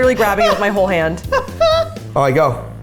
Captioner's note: laughing